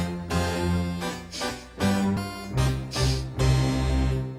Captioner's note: sniffles